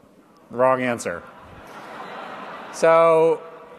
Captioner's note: laughter